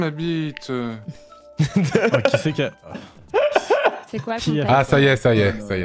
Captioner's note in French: rires pendant que est gêné